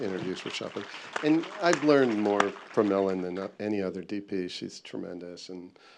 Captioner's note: applause